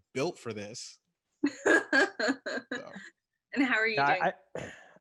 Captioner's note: laughs